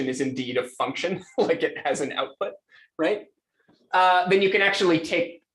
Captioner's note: laughs